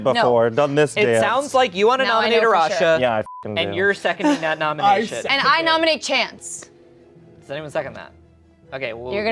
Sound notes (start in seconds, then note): 3.2 beep